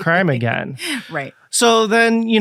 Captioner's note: giggling